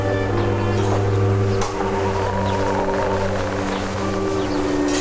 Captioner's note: footsteps tapping; dramatic music